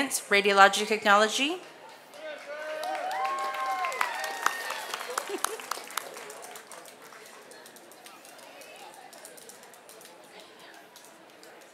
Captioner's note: applause